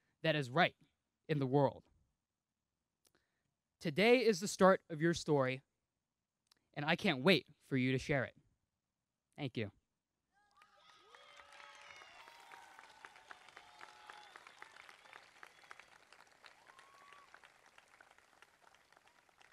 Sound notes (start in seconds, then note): 11.1 crowd clapping